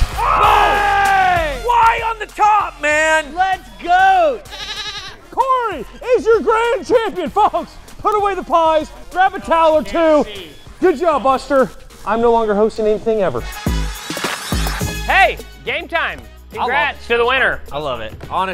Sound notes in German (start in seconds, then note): 0.2 shouting; 4.4 schafe baas